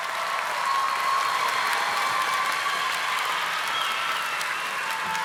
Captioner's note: audience cheering